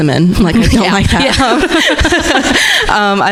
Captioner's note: laughing